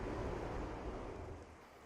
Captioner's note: water gushing